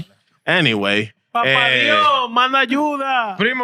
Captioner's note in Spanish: Hablando en idioma extranjero